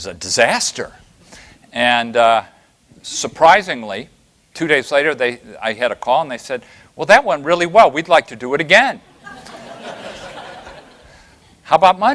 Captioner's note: laughter